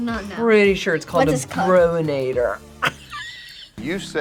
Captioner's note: laughs